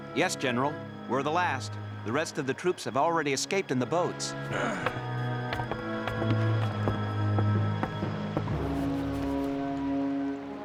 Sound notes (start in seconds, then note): 4.4 grunts